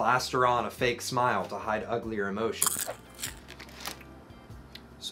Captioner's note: popcorn crunching